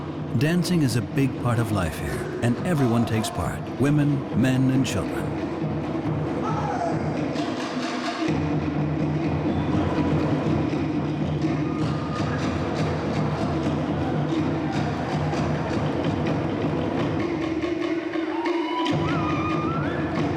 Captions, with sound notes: Dancing is a big part of life here, and everyone takes part: women, men, and children. -[drumming continues] -[man shouts] [shouts]